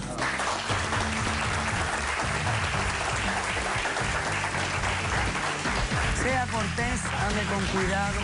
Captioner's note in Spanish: aplausos